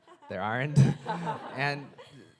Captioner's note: audience laughing